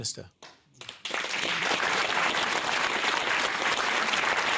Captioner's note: applause